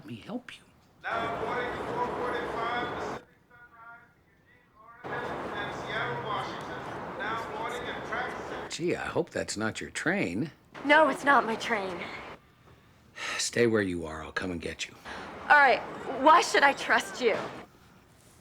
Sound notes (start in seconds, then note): 2.6 over P.A; 4.3 man continues over P.A; 15.0 sighs